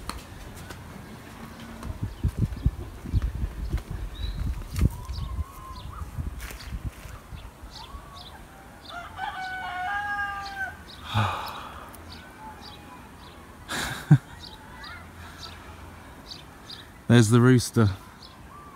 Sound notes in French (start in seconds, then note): 7.8 chant du coq; 13.6 rire